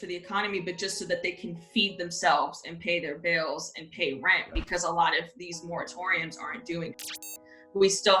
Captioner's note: static